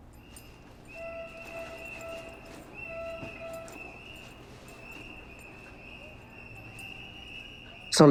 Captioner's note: whistles blowing